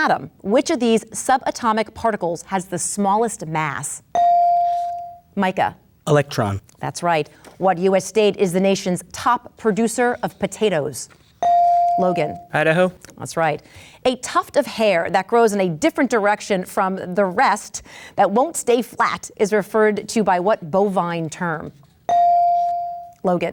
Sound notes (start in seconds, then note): 4.1 bell dings; 11.4 bell dings; 22.1 bell dings